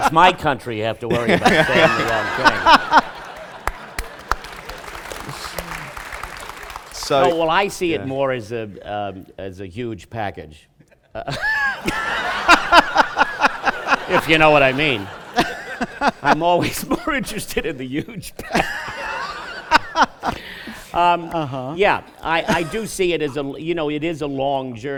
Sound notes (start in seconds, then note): 3.4 laughter and applause; 10.8 laughter; 16.2 laughing